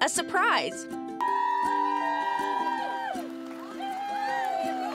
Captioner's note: people cheering